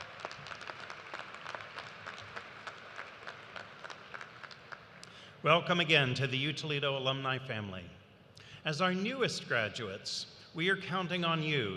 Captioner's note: applause